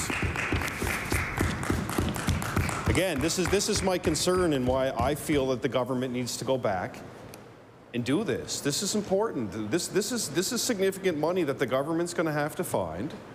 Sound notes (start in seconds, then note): 4.1 applause